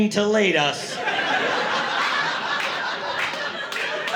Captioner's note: laughter